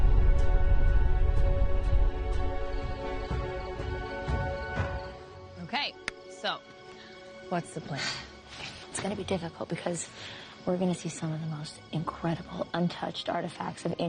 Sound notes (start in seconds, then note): none